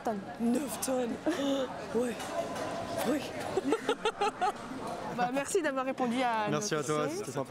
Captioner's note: laughs